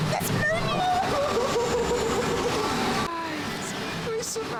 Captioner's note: crying